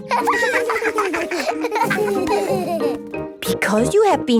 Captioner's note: laughter